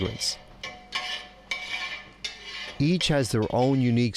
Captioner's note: metal clinking